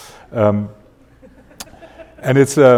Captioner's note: audience laughing